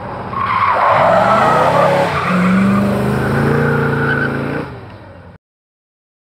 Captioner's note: tires squeal; car revs